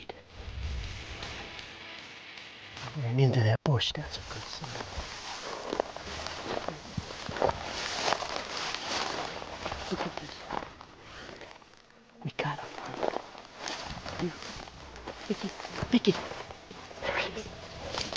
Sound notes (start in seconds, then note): 0.5 upbeat rock music; 4.1 plants rustling